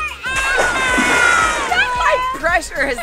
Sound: splash

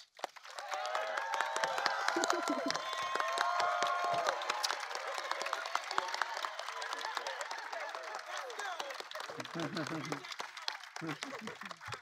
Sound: applause

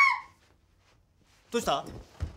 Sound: Mika screams

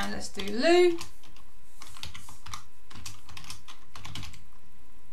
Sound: keyboard clicking

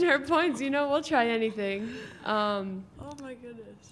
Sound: laughing

